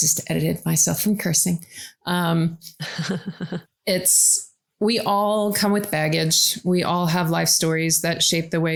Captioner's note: laughs